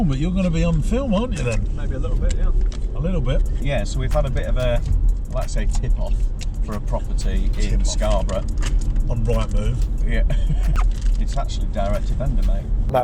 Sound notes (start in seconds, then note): 10.2 laughs